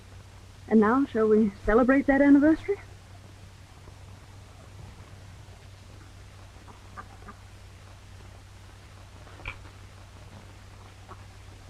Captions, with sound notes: - And now, shall we celebrate that anniversary? (ducks quacking)